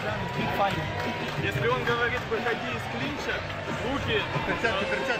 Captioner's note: speaking Ukrainian